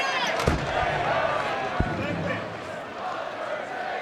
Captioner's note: coffin lid thuds